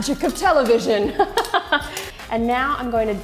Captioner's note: laughs lightly